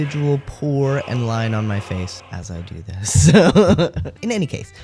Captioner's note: laugh